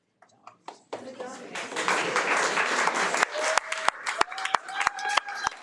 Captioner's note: audience applauding